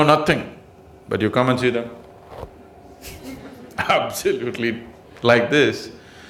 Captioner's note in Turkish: gülüşler